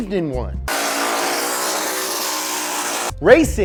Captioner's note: engine revving